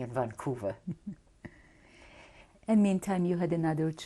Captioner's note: laughter